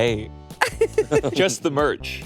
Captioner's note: laughing